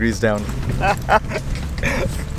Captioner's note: laughs